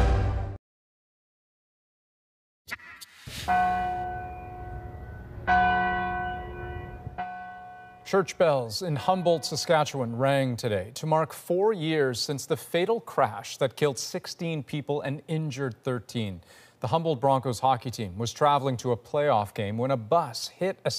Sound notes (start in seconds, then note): 9.4 bells tolling